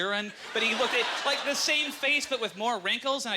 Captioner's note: audience laughter